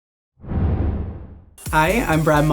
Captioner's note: logo slams